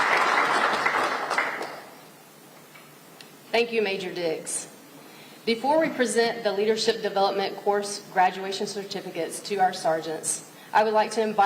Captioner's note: applause